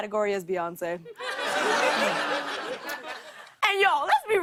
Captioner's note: laughter